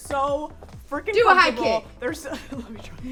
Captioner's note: laughs